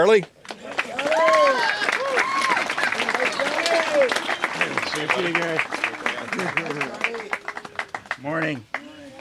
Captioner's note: applause